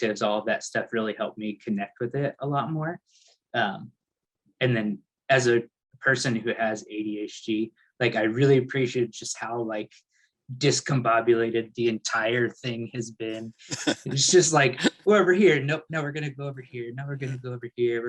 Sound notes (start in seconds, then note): 13.6 laughs